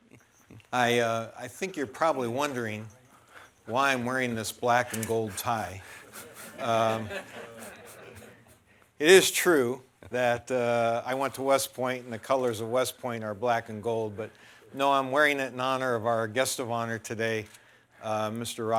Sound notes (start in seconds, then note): 5.9 laughter